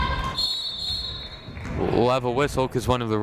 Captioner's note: whistle blows